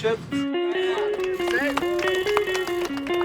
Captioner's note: crowd cheering